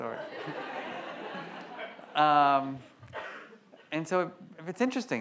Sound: audience laughs

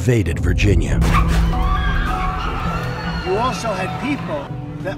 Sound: people screaming

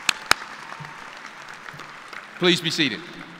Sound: cheers and applause

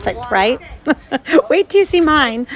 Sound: laughing

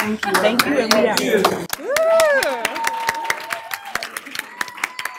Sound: applause

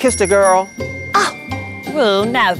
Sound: scoffs

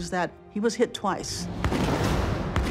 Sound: gunshots

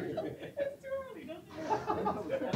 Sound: laughter

